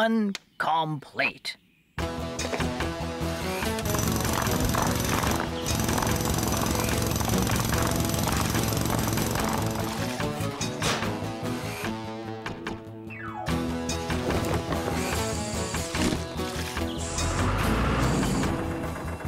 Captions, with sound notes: PHASE ONE... COMPLETE! ( Jackhammer Pounding )